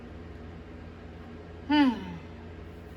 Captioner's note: Caprice sighs